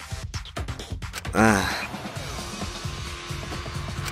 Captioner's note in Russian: Вздох